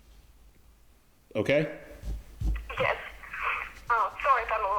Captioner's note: crying